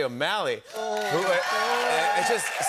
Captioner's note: cheers and applause